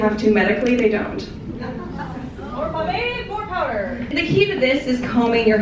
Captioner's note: crowd laughing